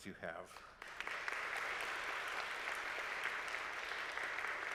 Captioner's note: audience applaud